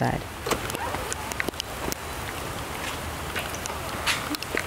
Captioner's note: door creaking